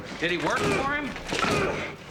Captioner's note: Eldon grunting throughout